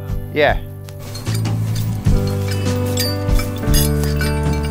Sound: chains clanging

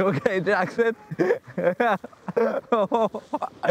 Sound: laughing

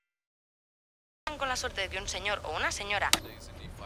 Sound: Spanish

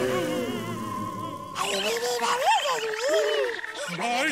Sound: babbling

